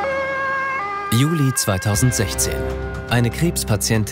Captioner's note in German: Sirene